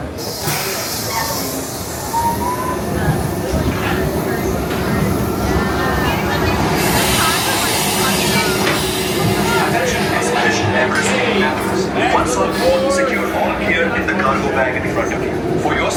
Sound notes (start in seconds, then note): 0.1 coaster squeals and hisses; 5.9 crowd chattering indistinctly